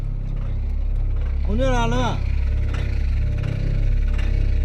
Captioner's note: Chinese spoken audio